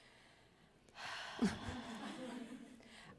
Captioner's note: chuckles